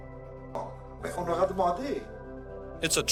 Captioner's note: speaking in French